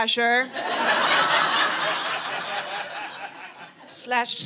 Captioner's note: audience laughing